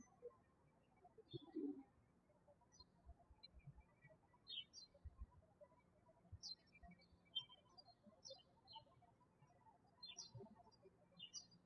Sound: birds chirping

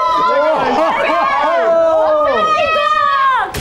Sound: confused X 100 / Screaming from everywhere

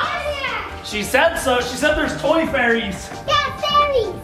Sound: yelling

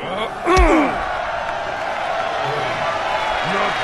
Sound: crowd begins to cheer

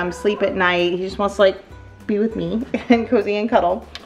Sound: laughs

